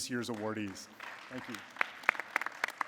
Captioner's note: audience applauding